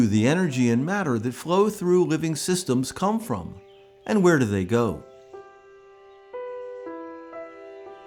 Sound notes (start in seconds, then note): 1.9 birds calling